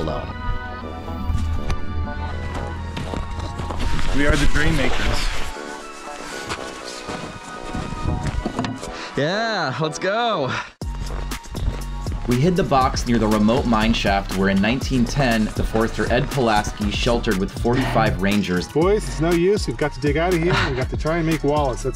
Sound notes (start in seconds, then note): 5.1 rustling sound; 6.5 footstep sound